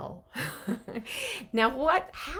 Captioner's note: chuckling